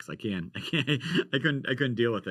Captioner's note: man laughs